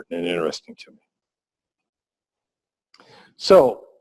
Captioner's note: pause